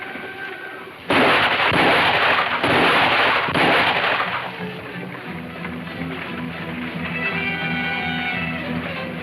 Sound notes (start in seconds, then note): 1.0 gunshots firing; 4.2 ominous music playing